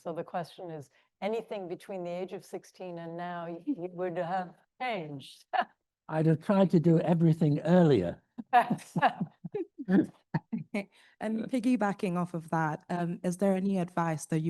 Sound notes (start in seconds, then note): 5.7 laughs; 8.4 laughs